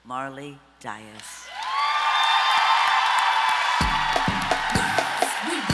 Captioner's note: audience applause